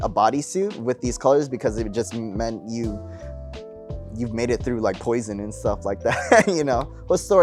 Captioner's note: laughs